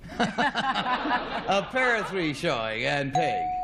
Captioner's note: laughter